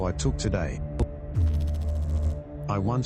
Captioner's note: electrical noise